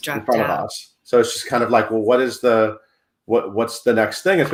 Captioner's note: none